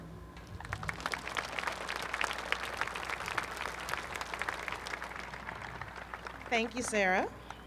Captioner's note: applause